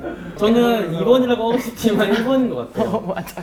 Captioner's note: warm tone; cool tone